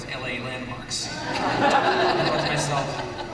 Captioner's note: laughter